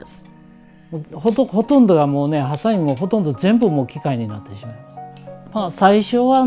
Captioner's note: speaking foreign language